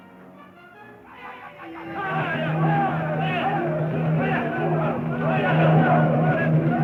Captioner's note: tribesmen chanting; drum beating